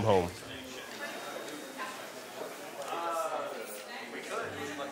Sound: group chattering

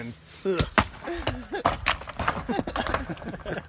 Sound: all laughing

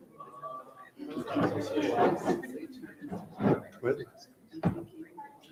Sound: group chattering

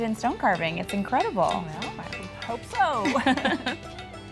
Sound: laughter

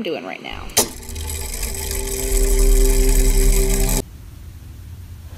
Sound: mechanism whirring

